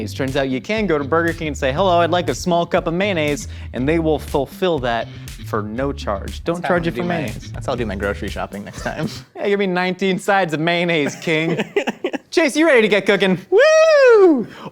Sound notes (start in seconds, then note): 11.0 laughing